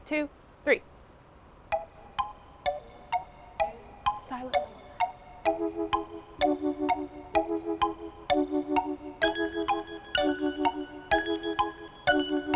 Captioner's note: ticking sound